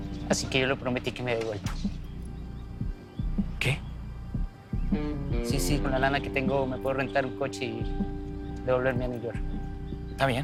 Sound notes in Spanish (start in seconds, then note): none